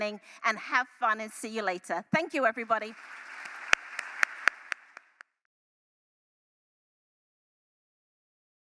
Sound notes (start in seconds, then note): 2.4 applause